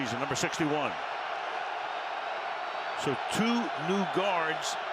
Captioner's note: cheers